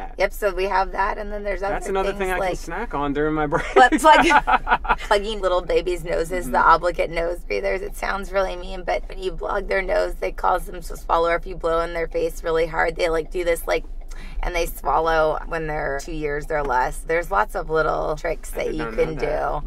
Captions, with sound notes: - Yup so we have that and then there's other things like-- - That's another thing I can snack on during my breaks (laughs) - But plug, (laughs) Plugging little babies noses, the obligate nose breathers, it sounds really mean but when you block their nose they cause them to swallow or if you blow on their face really hard they like do this like (gasp) and they swallow, when they're two years or less. There's lots of little tricks that you can do.